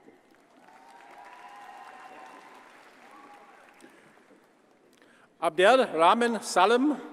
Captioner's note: audience cheers and applauds